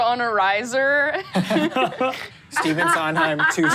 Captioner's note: laughs